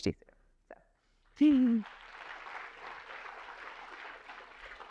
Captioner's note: applause